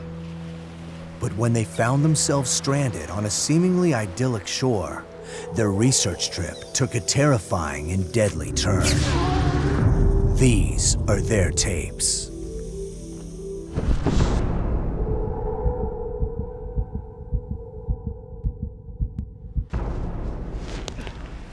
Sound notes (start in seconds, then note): 15.8 heart pounding